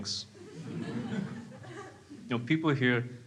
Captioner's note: crowd laughs